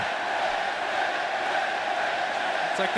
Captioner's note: fans chanting